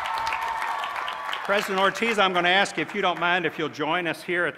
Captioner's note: cheers